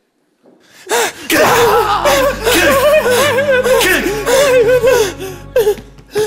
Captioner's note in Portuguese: pancadas